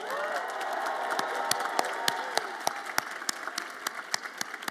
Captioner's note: audience applauds and cheers